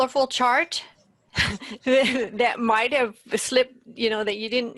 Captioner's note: laughs